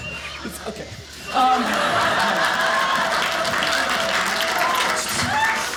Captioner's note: audience laughing